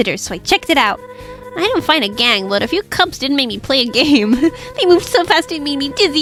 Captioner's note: laughs